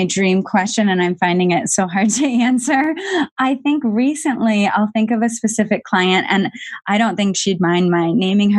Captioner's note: laughs